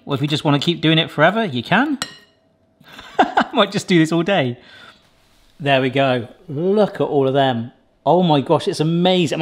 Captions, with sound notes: or if you just wanna keep doing it forever, you can. (laughs) I might just do this all day. There we go. Look at all of them. Oh, my gosh, it's amazing.